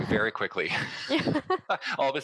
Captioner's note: laughs